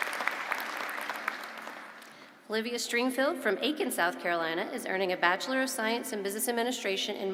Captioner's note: applause